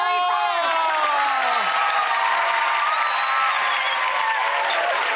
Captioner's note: audience cheering